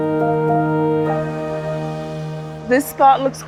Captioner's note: water streams